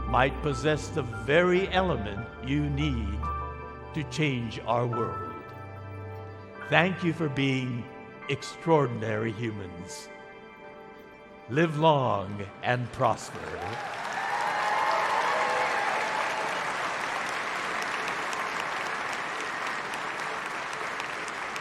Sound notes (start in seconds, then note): 13.1 congregation cheering; 13.1 congregation clapping